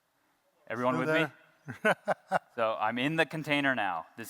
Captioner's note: laughter